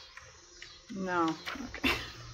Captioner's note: laughs